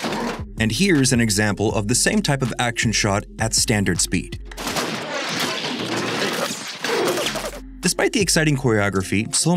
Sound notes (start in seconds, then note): 4.6 shots